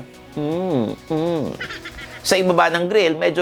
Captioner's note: softly grunts